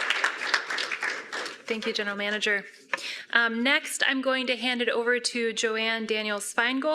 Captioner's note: applause